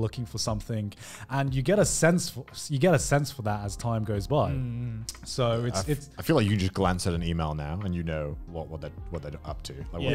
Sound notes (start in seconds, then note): none